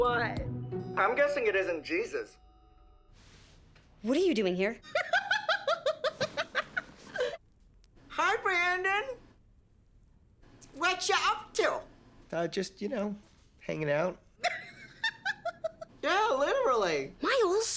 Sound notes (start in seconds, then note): 4.9 laughing